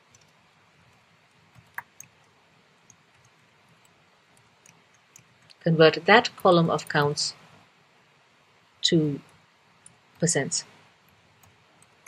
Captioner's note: pause